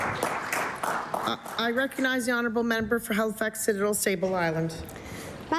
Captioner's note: applause